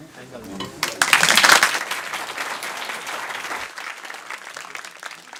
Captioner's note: applause